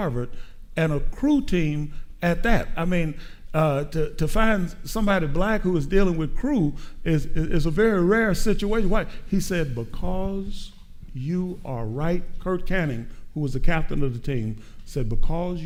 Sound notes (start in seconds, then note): none